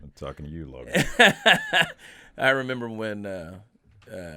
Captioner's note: Chad laughing